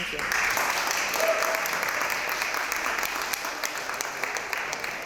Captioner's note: applause